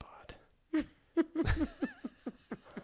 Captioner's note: laughter